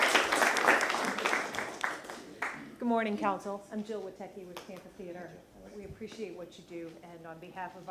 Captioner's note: applause